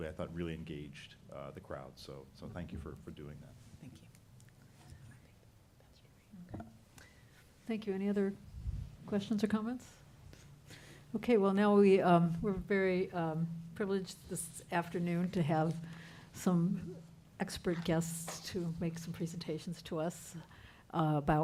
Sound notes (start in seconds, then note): 4.0 whispering